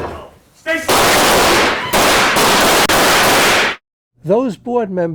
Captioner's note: gun shots